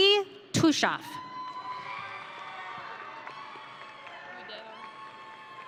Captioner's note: audience cheering